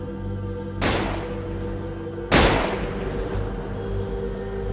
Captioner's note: gunfire pops